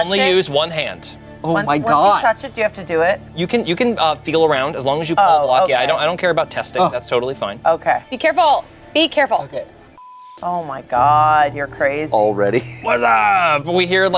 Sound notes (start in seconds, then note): 10.0 beep